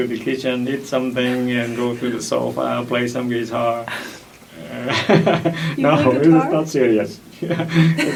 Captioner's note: laughs